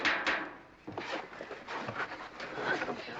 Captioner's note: all straining